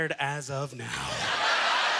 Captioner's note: audience laughter